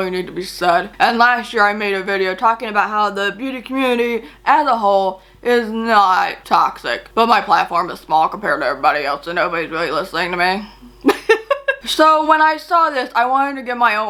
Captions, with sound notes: And, last year I made a video talking about how the beauty community, as a whole, is not toxic but my platform is small compared to everybody else so nobody's really listening to me. (LAUGHS) So when I saw this, I wanted to give my own perspective.